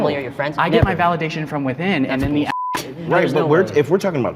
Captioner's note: beep